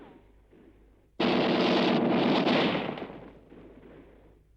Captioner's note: gunfire